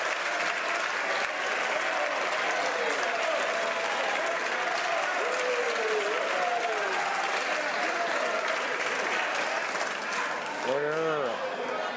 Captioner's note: cheering/Applause